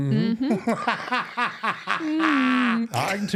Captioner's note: laughing